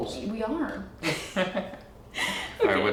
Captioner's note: laughing